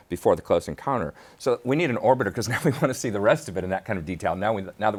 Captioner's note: laughs